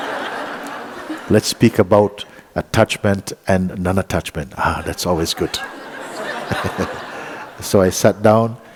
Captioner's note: laughter; laughter